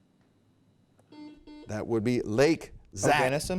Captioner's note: buzzer beep